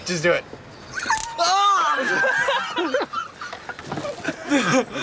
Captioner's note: laughter